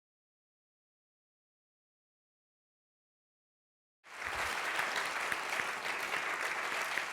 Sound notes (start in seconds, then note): 4.0 applause